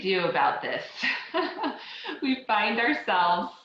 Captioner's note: laughs